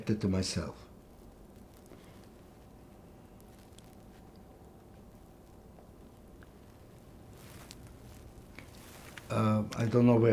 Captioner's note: pauses 8 seconds